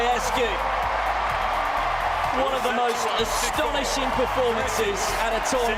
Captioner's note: cheers and Applause